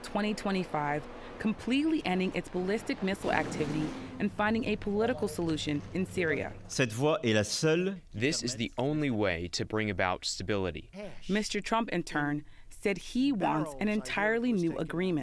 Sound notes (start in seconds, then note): 7.6 through translator